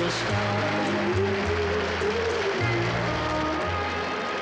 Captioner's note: audience applauding